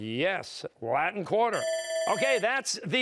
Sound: bell ringing

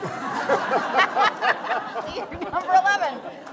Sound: audience Laughing

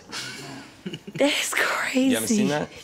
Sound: laughs

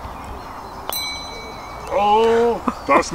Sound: bell dings

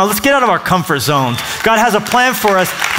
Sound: applause

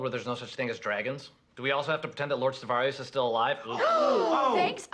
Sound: everyone gasps

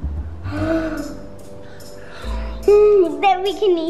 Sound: excited gasp

